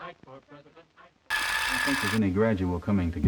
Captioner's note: reel whirring